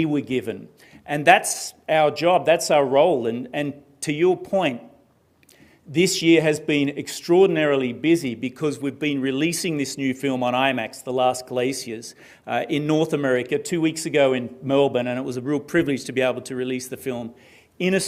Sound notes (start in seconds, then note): none